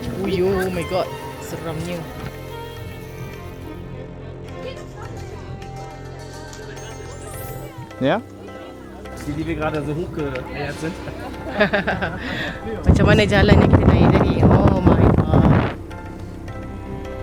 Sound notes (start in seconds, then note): 8.1 laugh; 8.1 speaking German